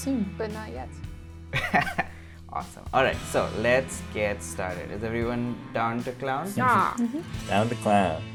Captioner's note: laughs